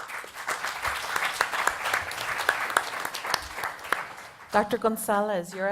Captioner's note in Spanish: Aplausos